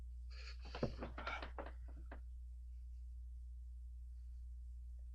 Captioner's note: David gasps